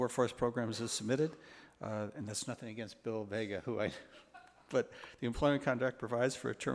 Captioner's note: laughs